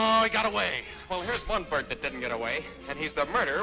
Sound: scoffs

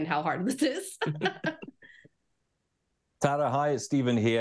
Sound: laughing

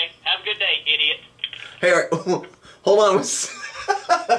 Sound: laughing

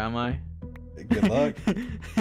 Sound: laughing

